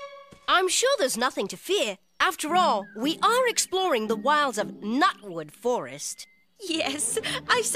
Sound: he says sarcastically

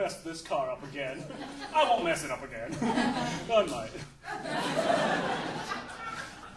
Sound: audience laughing

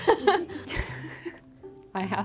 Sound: laughs

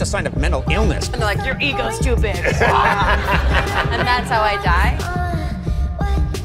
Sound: Kimmel laugh

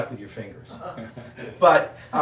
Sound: audience laughing

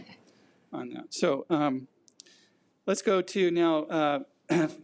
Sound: clears throat

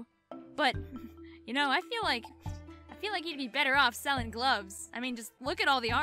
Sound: chuckle

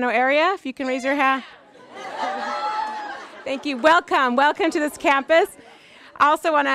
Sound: applause

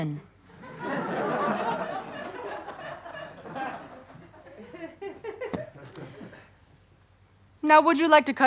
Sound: audience laughter

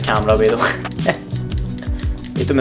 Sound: laughs

